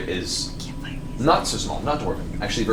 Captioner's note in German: flüstert